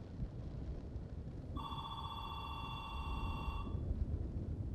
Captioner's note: phone ringing